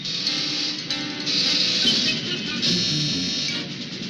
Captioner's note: alarms sounding